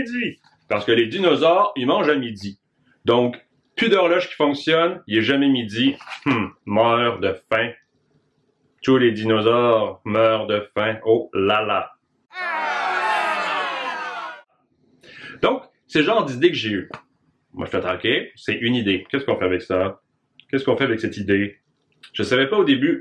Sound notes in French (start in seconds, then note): 12.3 Cris de découragement